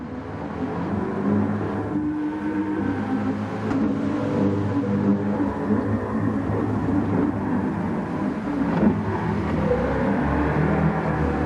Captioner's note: engines revving, cars noises, rain